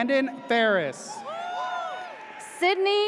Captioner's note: audience cheers